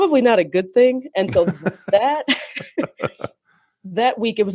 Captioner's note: laughs